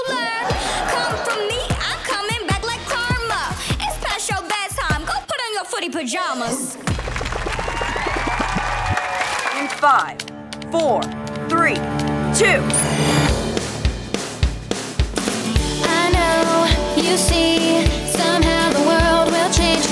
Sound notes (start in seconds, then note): 6.8 cheering, applauding